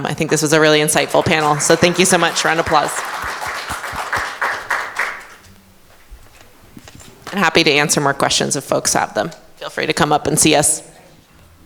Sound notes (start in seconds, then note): 4.2 audience applauding